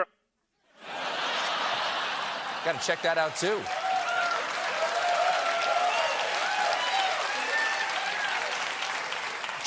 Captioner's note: laughter